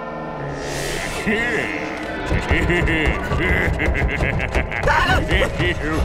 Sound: laughing

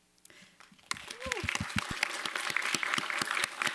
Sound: applause

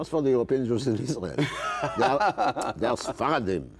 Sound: laughing

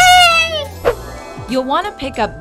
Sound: magic twinkling

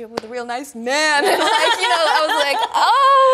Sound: both laugh loudly

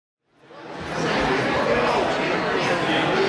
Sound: background chatter

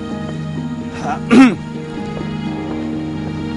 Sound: coughs

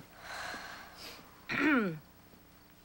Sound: exhales; ahem

